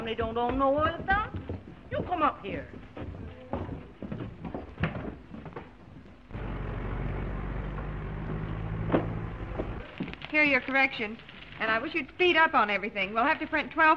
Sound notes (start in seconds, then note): 6.3 car engine puttering